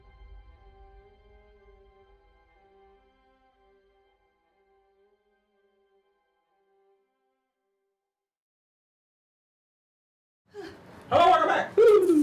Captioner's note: multiple carbonated beverages opening